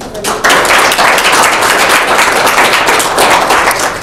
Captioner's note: clapping